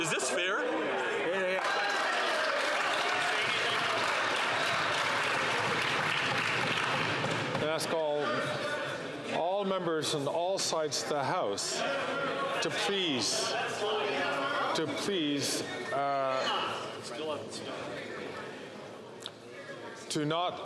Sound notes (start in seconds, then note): 4.8 some Applause